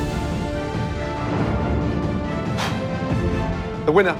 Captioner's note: exhales